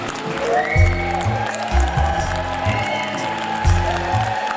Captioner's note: audience applause, cheers and whistles